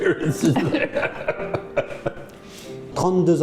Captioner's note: laughing